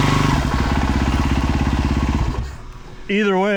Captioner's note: engine revving